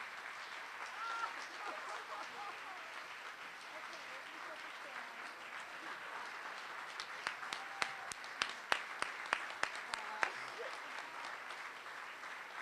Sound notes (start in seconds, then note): 1.0 laughing